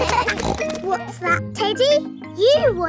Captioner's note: kids laughing; snorts